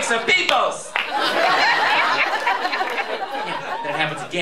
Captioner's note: laughter